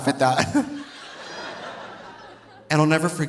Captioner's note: audience laughing